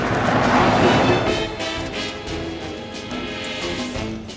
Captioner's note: car rumbles in and squeakish stop; playful music continues